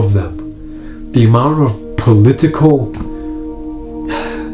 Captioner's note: sighs